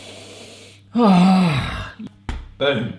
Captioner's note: sighing